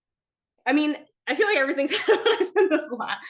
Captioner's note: laughs